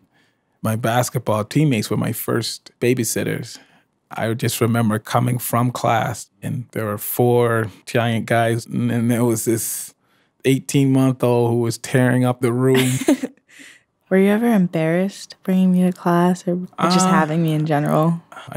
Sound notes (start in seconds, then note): 12.6 laughs